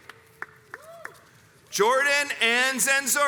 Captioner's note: crowds cheers and applauds